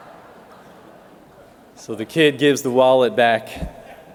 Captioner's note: laughter